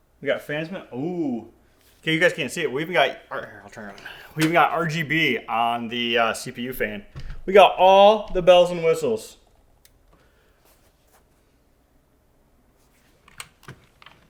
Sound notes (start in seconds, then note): none